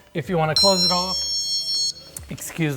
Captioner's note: alarm beeping